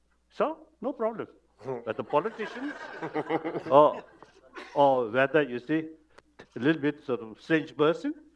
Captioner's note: laughter